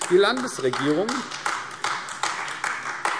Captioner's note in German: Beifall AfD